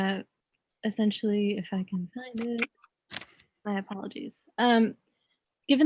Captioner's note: faintly speaking